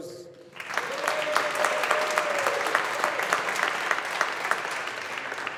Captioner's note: audience applauding